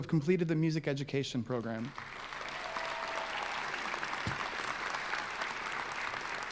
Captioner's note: applause